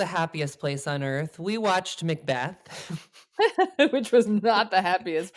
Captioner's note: laughs